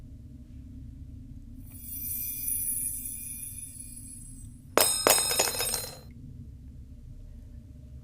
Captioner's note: A magical hum and two metal pieces hitting the ground